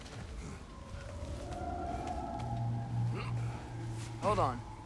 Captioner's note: sound of a creature in the distance